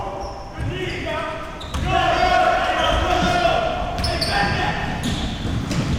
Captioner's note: audience chattering and yelling